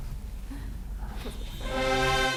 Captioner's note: laughs; upbeat music